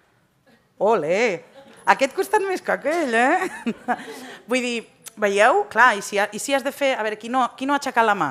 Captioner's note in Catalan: riures